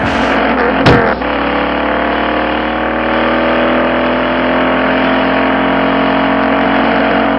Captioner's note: skidding; powerful engine running